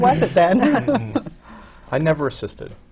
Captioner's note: laughs